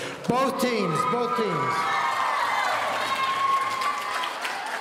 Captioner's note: audience cheering